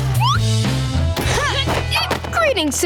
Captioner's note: grunting